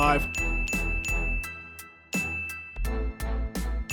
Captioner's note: ding x5; royalty-free music continues